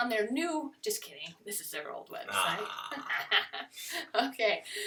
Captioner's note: laughter